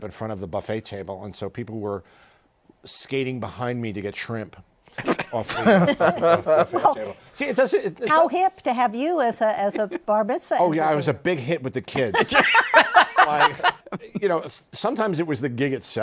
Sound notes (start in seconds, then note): 11.9 laughter